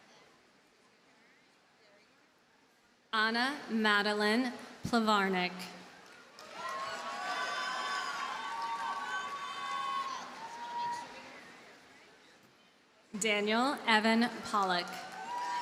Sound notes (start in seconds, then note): 6.0 audience cheers and applauds